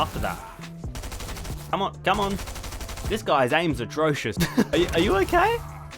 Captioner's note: laughs